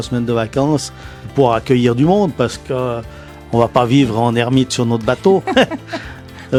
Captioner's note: laughs